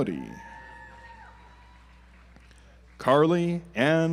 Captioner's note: audience applauds